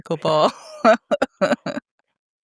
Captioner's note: laughing